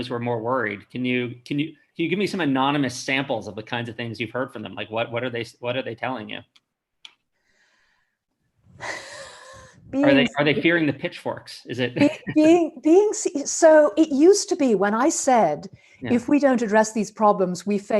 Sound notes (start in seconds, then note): 8.7 sighs; 11.8 chuckles